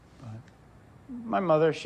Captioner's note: none